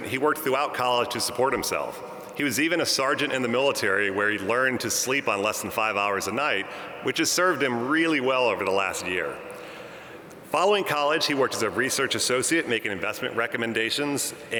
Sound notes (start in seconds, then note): none